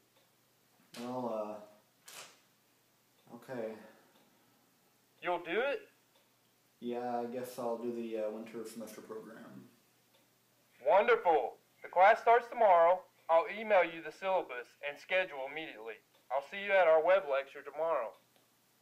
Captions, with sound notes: Well… OK. (phone voice) You'll do it? Yeah, I guess I'll do the Winter Semester program. (phone voice) Wonderful! The class starts tomorrow. I'll email you the syllabus and schedule immediately. I'll see you at our web lecture tomorrow.